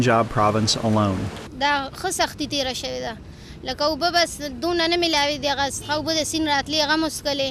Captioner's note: Pashto language